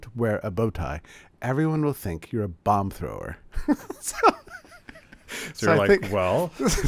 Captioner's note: laughs